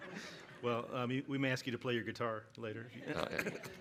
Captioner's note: laughter